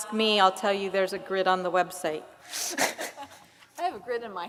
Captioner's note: laugh